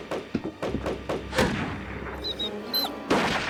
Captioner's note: whimpering